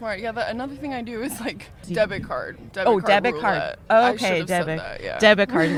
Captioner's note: laughs